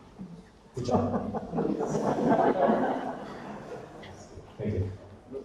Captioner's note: audience laughter